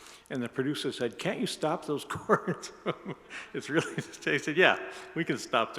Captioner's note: laughs